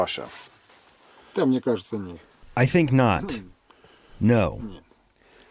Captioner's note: through translator